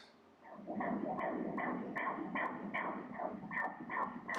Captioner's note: heart beat